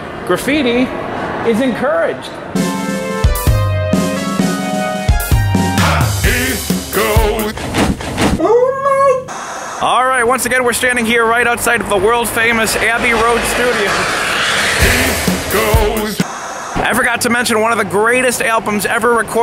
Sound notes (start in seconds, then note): 2.5 upbeat music; 9.2 static hissing; 16.2 static hissing